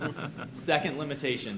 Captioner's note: audience chuckling